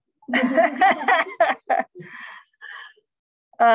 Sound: laughter

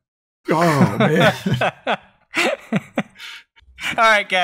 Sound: laughter

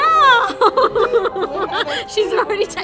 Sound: women laughing

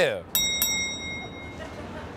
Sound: bell rings

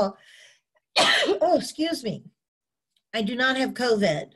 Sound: sneezing

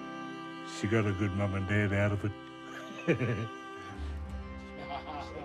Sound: laughs

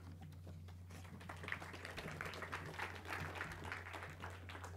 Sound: clapping

